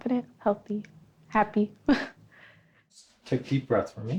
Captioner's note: chuckles